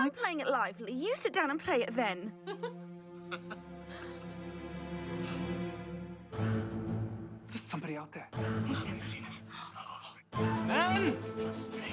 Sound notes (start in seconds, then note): 2.4 both laughing